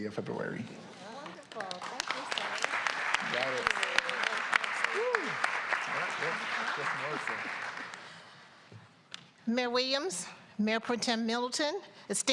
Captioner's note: applause